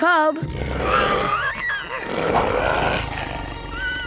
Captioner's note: grunting